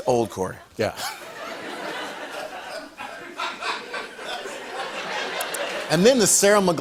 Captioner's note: laughter